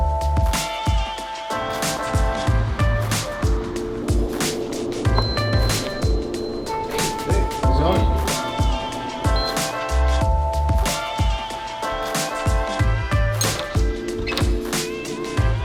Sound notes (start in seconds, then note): 5.0 elevator beeps; 7.2 fun music; 9.5 keycard beeps